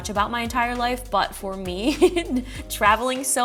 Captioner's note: laughs